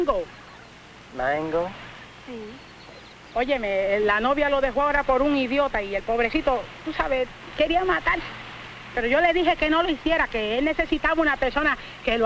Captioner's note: speaking spanish